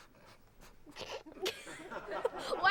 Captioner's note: all laughing